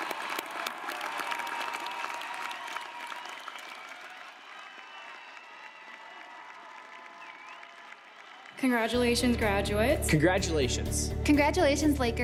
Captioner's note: applause